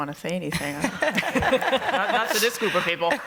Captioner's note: laughter